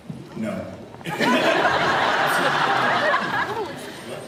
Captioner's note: laughs